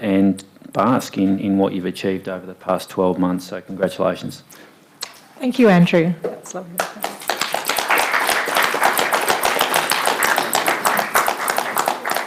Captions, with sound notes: and basking in what you've achieved over the past 12 months. So, congratulations. - Thank you, Andrew. That was lovely, (audience applauding)